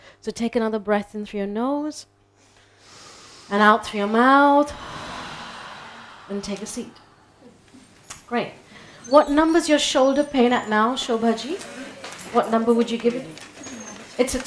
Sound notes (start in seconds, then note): 2.5 people inhaling; 4.9 people exhaling